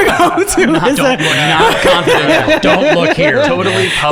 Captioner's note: laughing